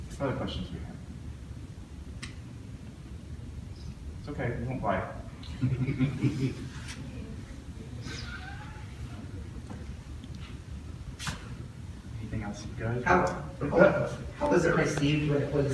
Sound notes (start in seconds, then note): 5.5 audience laughs